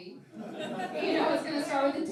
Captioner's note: laughing